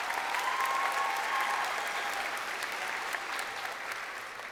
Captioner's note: crowd cheering